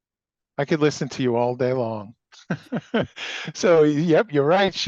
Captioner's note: laughs